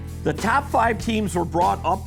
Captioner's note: voiceover